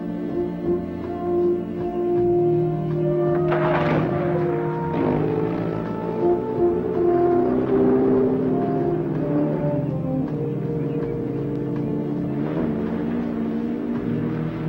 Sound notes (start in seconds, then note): 3.3 jeep sputters and starts; 7.7 jeep whirs; 10.9 gentle music